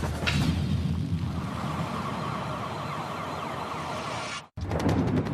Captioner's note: sirens wailing